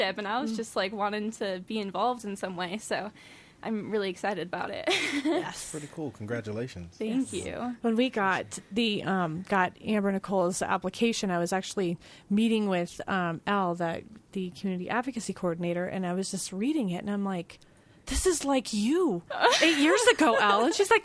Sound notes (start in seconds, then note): 5.0 laughs